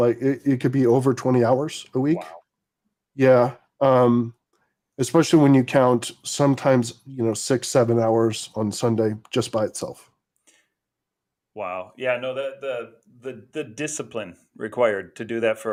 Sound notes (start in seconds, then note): none